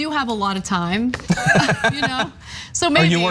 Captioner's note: laugh